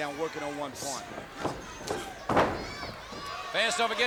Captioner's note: crowd yelling; body thudding